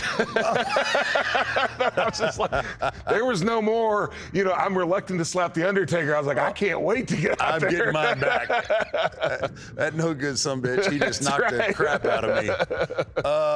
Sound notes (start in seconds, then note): 0.0 both laugh; 7.2 laughs